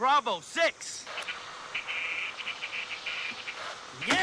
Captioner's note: Static